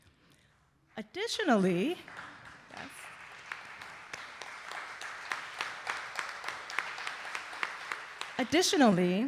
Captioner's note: audience applauding